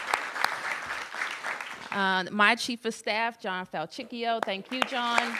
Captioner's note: applause